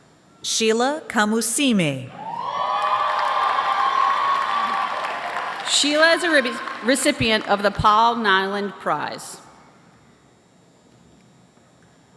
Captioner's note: applause